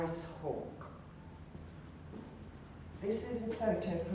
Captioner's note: footsteps walking towards the board